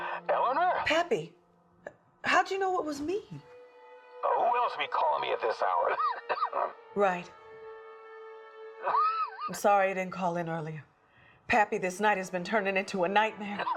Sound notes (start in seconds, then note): 5.8 coughs; 8.9 Pappy coughs